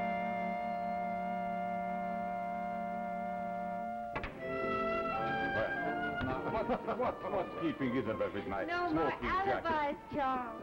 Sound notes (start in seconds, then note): 3.9 sound of billiard balls striking each other